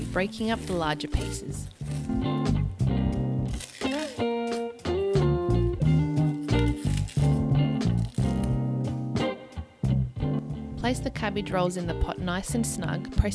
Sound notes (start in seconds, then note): 3.8 cabbage crunches